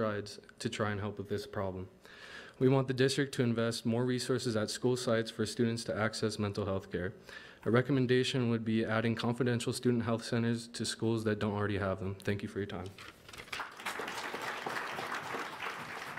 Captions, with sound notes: to try and help with this problem. We want the district to invest more resources at school sites for students to access mental healthcare. Our recommendation would be adding confidential student health centers to schools that don't already have them. Thank you for your time. (applause)